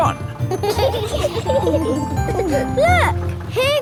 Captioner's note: kids giggling